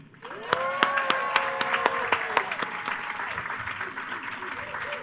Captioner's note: attendees applauding